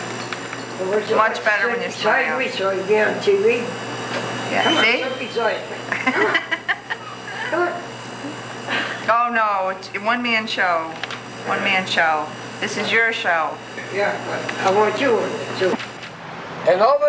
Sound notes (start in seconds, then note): 5.8 she laughs